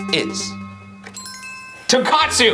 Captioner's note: bell chimes